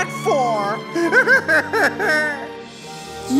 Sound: crying

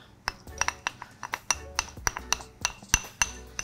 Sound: spoon scraping

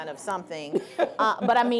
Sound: laughing

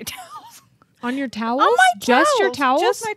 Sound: chuckles

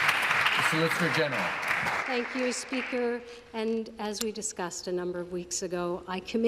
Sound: some Applause

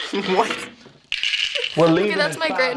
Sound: pills rattle

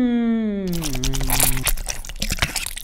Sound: reading in zombie grunts

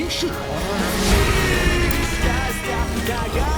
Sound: screaming

